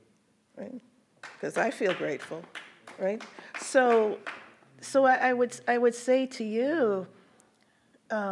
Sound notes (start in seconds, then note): 1.2 people clapping